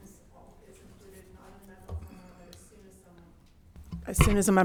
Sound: faintly speaking

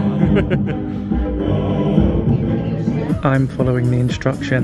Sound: laughing

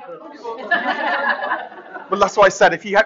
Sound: laughter

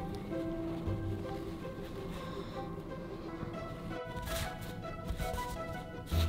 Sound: classical music; fabric rustling

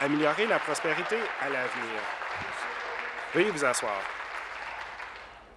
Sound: applause

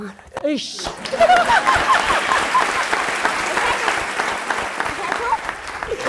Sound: laughter and applause

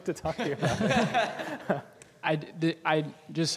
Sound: laughing

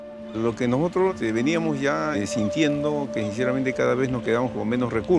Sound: man speaking foreign language

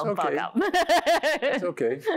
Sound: laughs

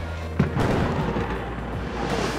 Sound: lightning and thunder

